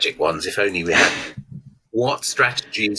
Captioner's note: chuckles